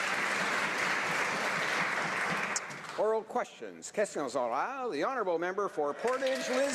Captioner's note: applause